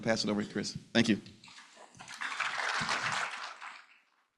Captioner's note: applause